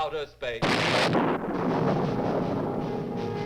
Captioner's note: lightning crashes; dramatic instrumental music